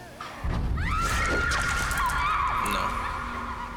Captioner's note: screaming